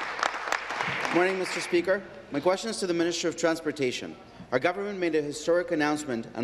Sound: applause

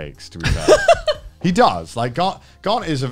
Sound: laughs

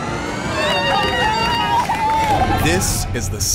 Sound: judges cheering

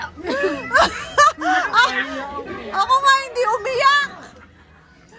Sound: laughs

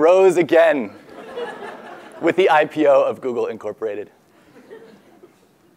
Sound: laugh

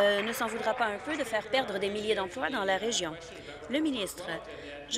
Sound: applause

